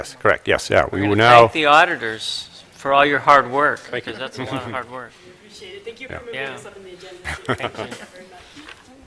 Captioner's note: laughter